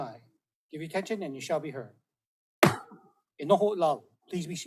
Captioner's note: gavel bangs once